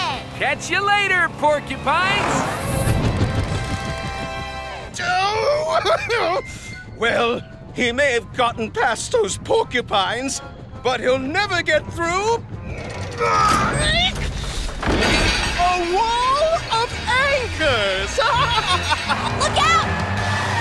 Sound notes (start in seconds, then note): 18.2 chuckling